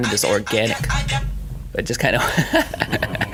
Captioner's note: cell phone ringing; laughing